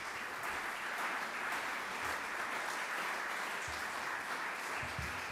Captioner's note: audience applaudes